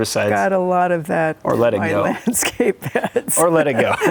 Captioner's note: laughing